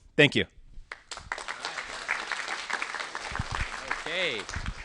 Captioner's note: applause